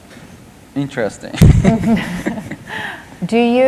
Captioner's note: laughter